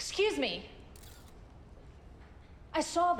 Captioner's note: camera shutter clicks